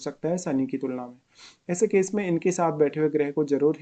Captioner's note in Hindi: नाक से की जाने वाली आवाज़